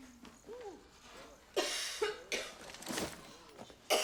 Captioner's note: coughing